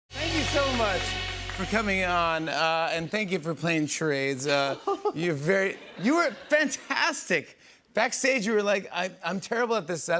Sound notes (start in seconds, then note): 4.4 laughs